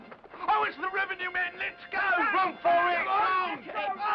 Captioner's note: hoofbeats